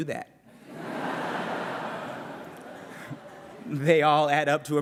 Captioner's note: laughter